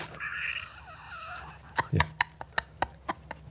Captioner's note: laughing